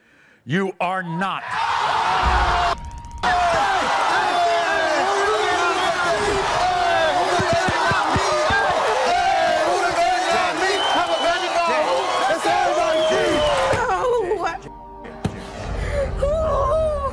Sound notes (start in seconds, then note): 1.4 audience cheers; 3.9 men cheer; 14.5 weeps